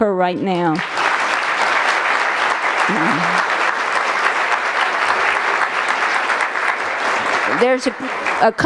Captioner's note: applause